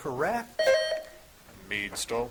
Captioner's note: buzzer chiming